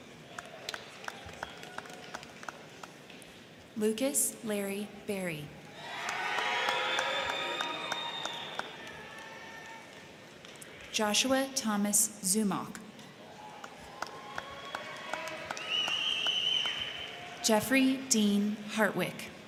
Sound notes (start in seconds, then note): 0.0 crowd clapping; 0.0 crowd cheering; 5.7 crowd cheering; 5.7 crowd clapping; 13.0 crowd cheering; 13.3 crowd clapping